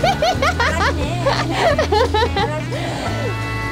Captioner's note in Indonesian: tertawa